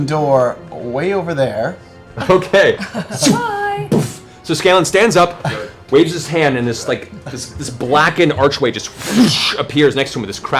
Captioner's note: laughs; whoosh